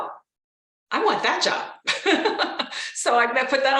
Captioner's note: laughs